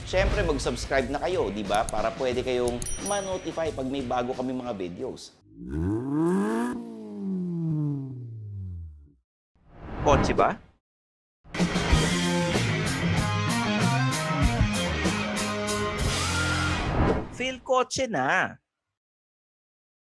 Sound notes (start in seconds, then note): 5.4 engine revs